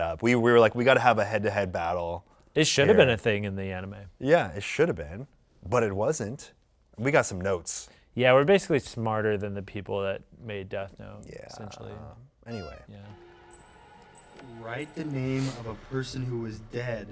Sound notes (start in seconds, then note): 12.8 button squeaks